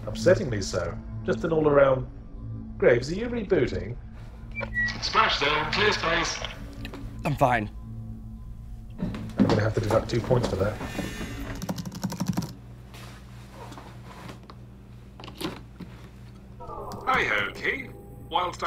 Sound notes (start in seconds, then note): 5.3 voiceover; 9.8 voiceover; 11.5 keys clicking